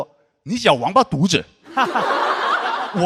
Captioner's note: in a northern dialect